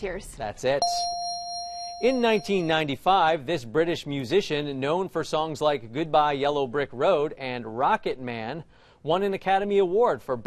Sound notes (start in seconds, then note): 0.8 bell dings